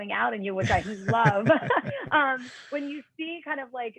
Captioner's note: laughter